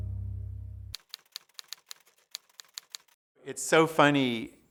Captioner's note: keyboard keys clicking